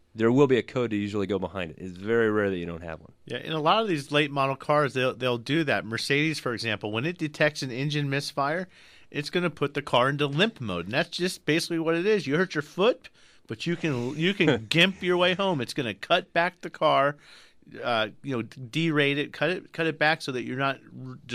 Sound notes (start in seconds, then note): 13.6 laughs